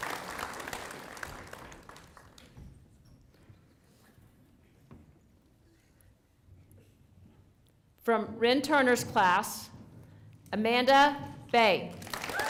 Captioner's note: applause